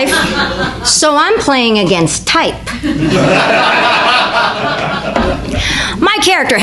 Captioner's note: audience laughter